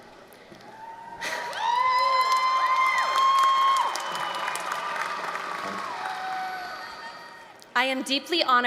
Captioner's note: applause, cheering